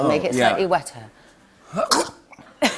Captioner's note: sneeze; laughter